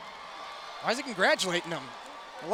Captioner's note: crowd cheering